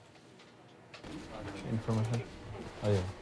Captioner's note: non-english speech